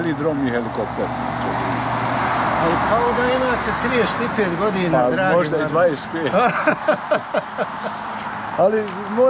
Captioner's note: laughs